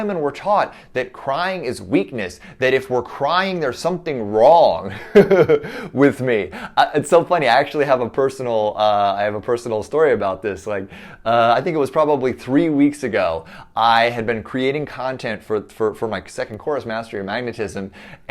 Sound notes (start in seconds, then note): 4.9 chuckles